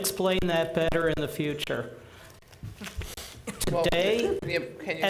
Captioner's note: chuckling